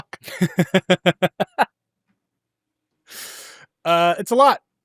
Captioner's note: laughing